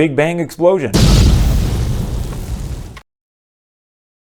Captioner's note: explosion